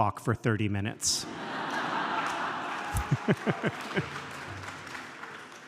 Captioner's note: audience laughs